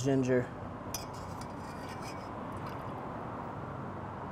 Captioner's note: spoon scrapes